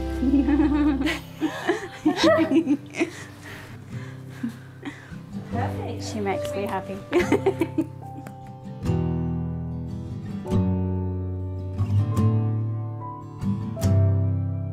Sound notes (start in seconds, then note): 0.1 both laughing; 7.1 laughing; 9.9 soft guitar music